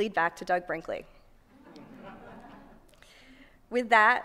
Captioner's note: laughter